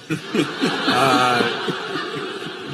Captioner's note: laughter